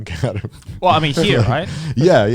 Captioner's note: chuckling